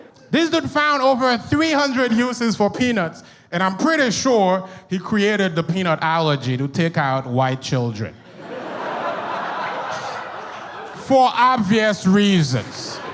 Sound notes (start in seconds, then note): 8.2 audience laughs